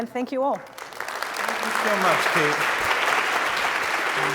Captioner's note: applause